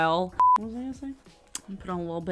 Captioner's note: broadcast signal